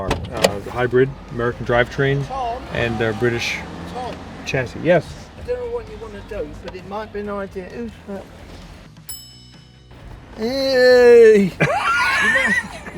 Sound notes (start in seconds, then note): 9.0 ding; 10.5 laughing